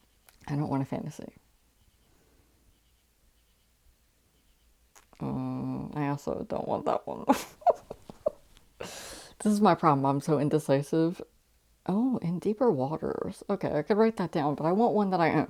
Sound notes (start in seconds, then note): 7.3 laughing